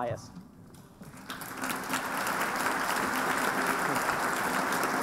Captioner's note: applause